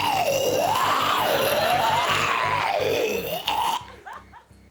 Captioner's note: retches